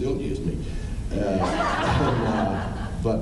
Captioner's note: laughing; laughs